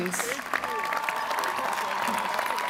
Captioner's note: applause